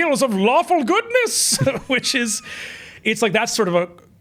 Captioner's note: chuckles